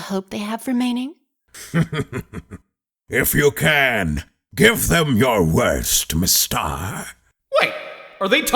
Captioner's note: chuckles